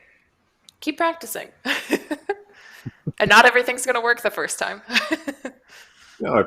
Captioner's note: laughs